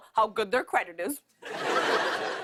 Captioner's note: laughter